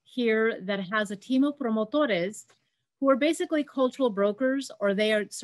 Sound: speaking Spanish

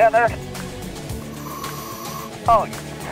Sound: air hisses

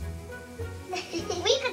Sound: laughs

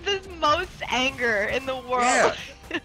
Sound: laugh

